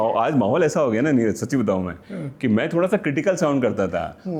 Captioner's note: clearing throat